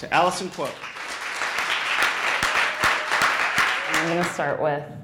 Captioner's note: clapping